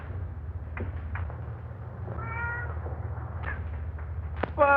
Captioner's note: cats meowing